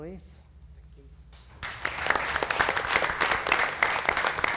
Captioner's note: applause